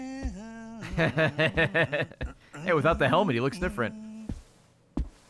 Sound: laughs

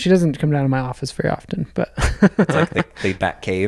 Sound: laughs

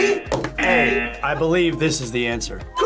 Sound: buzzer

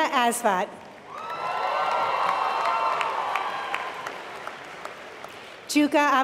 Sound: applause

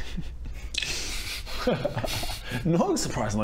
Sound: suspicious laugh

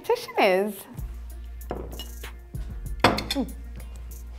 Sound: plate setting down

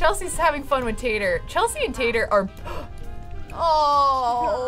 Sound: gasps

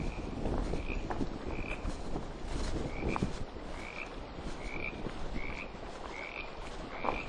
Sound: frog croaking

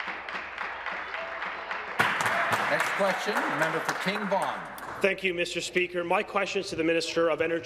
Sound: applause

